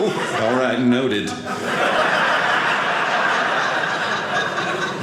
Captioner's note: audience laughing